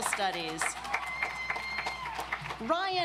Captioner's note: audience applauds